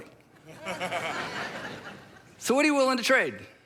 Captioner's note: crowd laughing